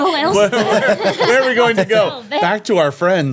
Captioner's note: laughing